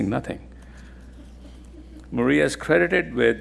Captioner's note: attendees laughing